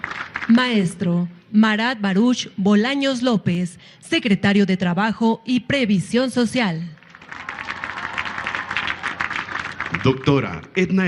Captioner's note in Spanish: aplausos